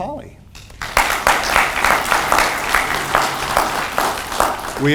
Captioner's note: audience applauds